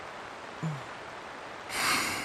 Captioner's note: relieved sigh; sleep groan